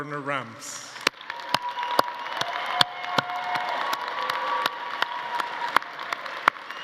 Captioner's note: everyone applauding; attendees cheering